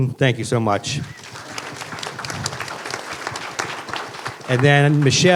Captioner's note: applause